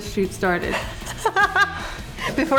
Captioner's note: laughs